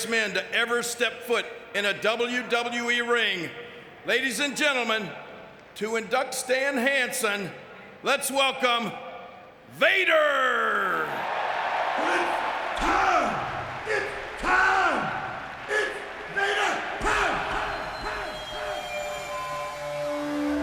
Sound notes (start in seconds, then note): 10.6 audience cheering